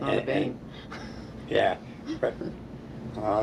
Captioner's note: laughing